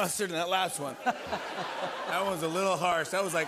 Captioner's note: laughter